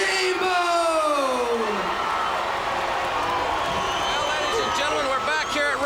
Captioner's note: crowd cheering